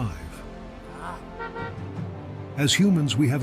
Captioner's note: horn honking